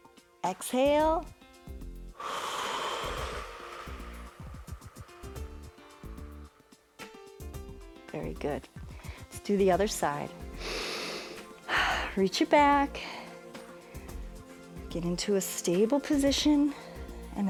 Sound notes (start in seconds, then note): 2.1 exhales; 10.5 inhales and exhales